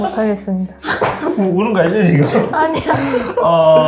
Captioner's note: laugh